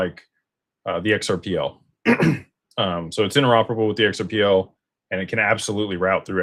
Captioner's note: clears throat